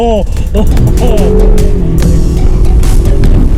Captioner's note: laughter